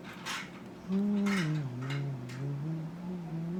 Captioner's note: humming